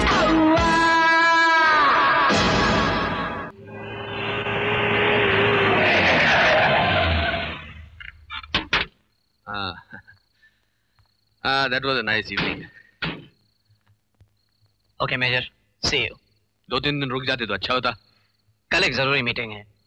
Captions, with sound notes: [Tire Screeching] That was a nice evening. Okay, Major, see you. If you stayed for a couple of days, it would have been good. I have an important meeting tomorrow.